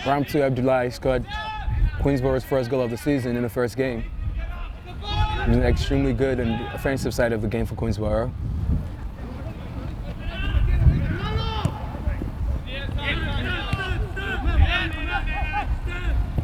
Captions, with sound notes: Rahmatullah Popal scored Queensborough first goal of the season in the first game. It was an extremely good and offensive side of the game for Queensborough. (players shouting)